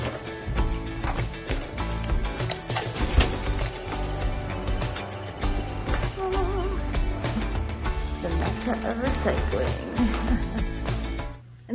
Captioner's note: laughs